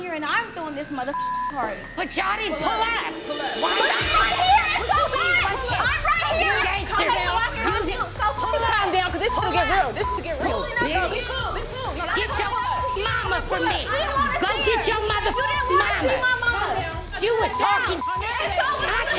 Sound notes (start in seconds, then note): 0.5 beep; 3.3 shouting; 6.7 shouting; 12.3 beep; 16.1 shouting